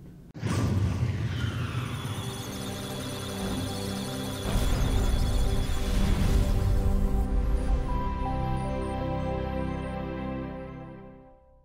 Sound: electronic Sounds of Data; musical Tones

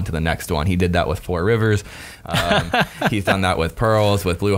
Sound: laughter

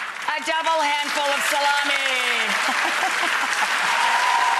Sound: laughing; audience cheering and applauding

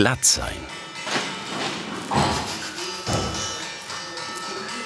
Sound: clanking sounds

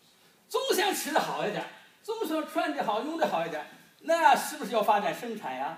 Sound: speaking foreign language

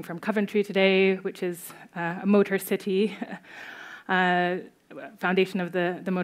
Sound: chuckles

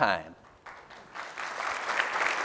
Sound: applause

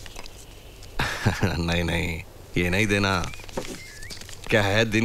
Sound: chuckles

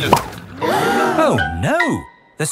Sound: all gasp

